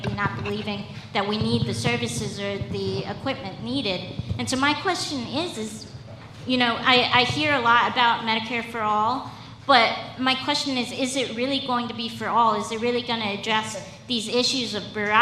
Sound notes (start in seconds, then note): none